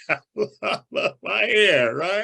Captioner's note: chuckles